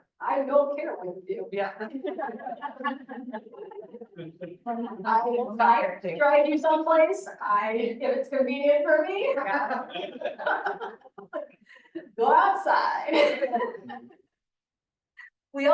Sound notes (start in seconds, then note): 1.9 audience laughing; 13.2 audience laughing